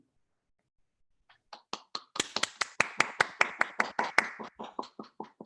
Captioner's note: applause